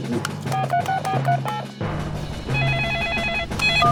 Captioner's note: phone beeping; phone ringing